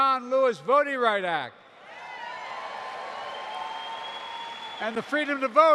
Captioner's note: applause